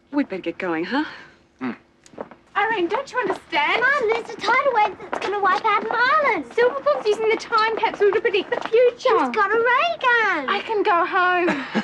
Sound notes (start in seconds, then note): 1.6 James grunts in agreement; 11.2 laughs